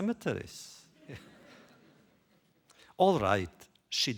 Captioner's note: laughter